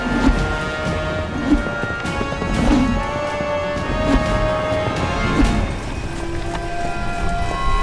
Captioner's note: rope whips